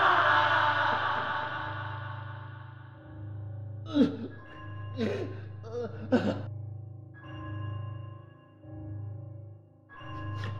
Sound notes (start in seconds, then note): 4.1 business Man gasping